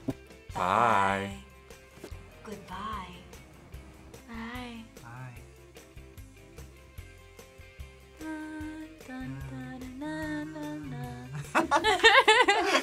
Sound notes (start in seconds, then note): 8.0 both humming creepily; 11.1 both laugh